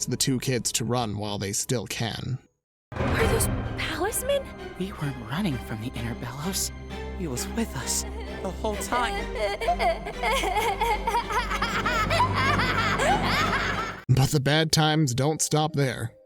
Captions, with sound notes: the two kids to run while they still can. - Are those palismen? - We aren't running from the inner Belos. He was with us the whole time. - [crying] [cackling] - But the bad times don't stop there.